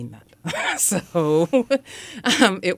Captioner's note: laughs